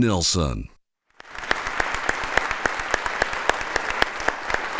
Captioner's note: audience applauding